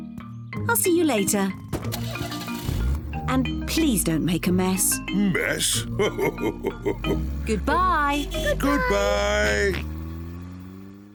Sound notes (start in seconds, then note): 1.5 car engine revs; 5.5 laughs; 7.0 horn beeps